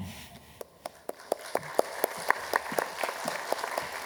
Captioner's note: applause